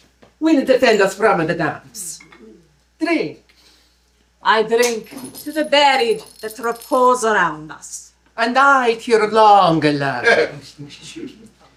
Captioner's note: laughter